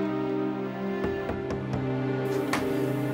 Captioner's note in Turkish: kapı sesi